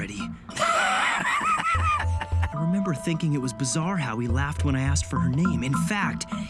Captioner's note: Ryuk Laughing